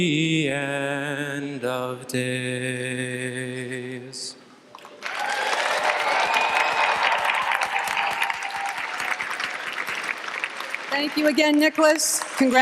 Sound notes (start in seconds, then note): 4.9 applause